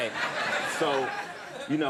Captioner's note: audience laughing